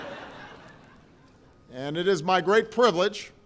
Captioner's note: laughter